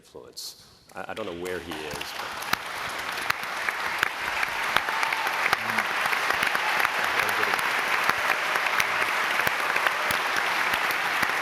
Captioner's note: applause